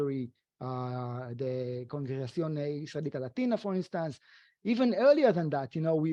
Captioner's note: speaking foreign language